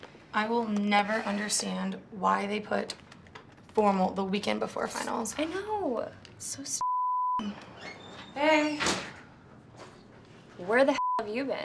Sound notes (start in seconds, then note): 7.4 door creaking